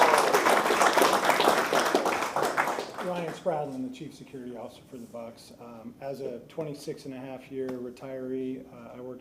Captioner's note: applause